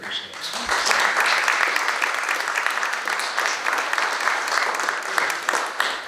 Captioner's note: audience applauding